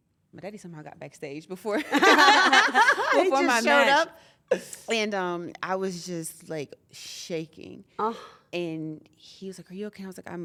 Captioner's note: laugh